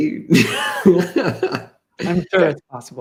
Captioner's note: laughs